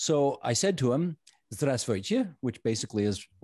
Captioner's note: speaking Russian